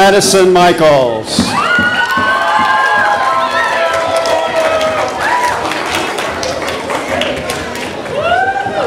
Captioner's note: audience applause